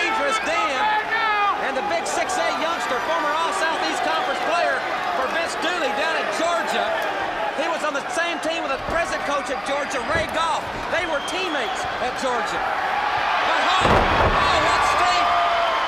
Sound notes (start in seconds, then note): 1.7 crowd chatter; 13.9 crowd cheering